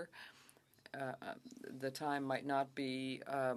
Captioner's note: speaking French